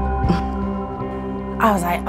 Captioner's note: tense music; scoffs